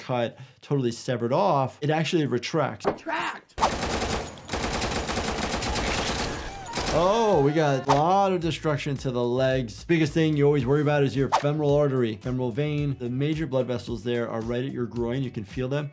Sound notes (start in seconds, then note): 3.6 gunshots exploding